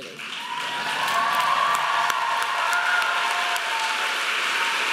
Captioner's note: audience applauding